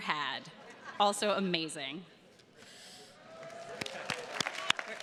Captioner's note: attendees laughing; attendees clapping